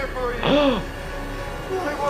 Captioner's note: person gasps